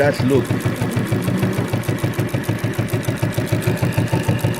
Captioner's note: rattling